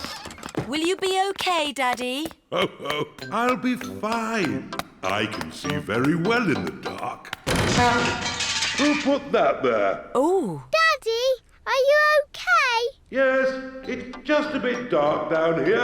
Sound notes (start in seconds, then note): 2.5 laughs; 5.4 crashing